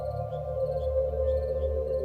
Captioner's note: birds chirping